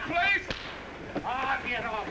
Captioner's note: smack